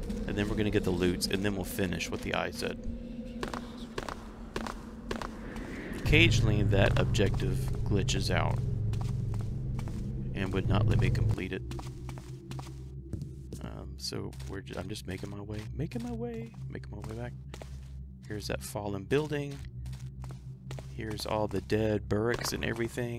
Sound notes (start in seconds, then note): 15.0 sing song